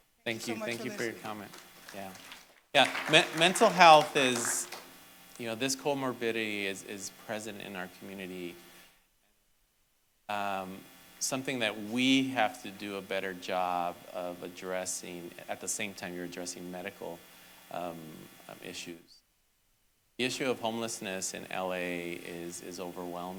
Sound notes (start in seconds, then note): 5.9 applause